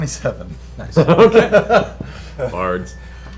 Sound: laughs

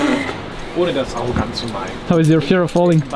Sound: speaking foreign language

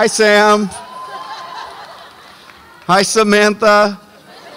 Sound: audience applauds and cheers

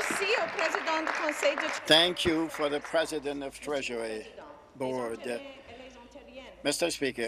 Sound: applause

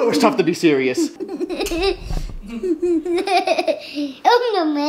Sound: laughing

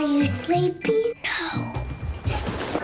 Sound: whispers

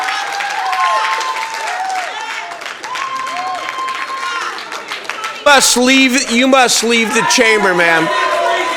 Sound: cheering

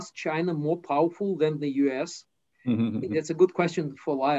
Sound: laughs

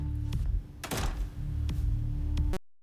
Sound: door closes

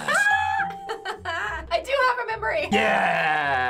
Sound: laughs

